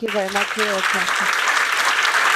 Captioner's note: applause